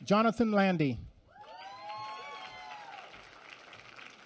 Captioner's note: applause